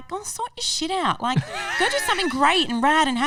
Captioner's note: laughing